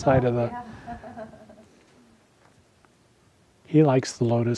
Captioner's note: attendee laughing